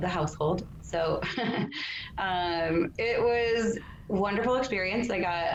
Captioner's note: laughs